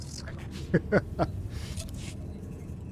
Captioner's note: laughs